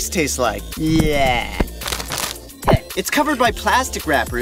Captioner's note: tongue noises; Plastic sound effect plays, as Gelatin's tongue touches the window